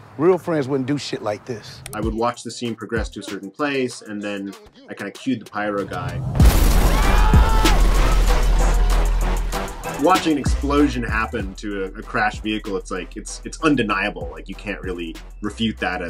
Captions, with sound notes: Real friends wouldn't do shit like this. - I would watch the scene progress to a certain place and then I kinda cued the pyro guy. (car explodes loudly) (crowd exclaiming) Watching the explosion happen to a crashed vehicle it's like, it's undeniable, you can't really refute that